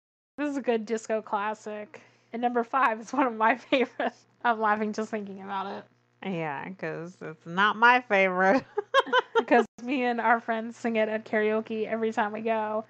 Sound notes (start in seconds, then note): 8.6 laughs